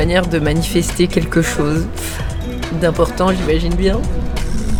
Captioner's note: stricking; deep house music